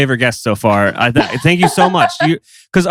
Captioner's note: laughs